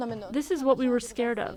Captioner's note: through translator